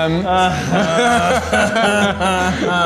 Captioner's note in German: Lachen